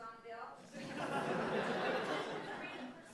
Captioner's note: audience laughing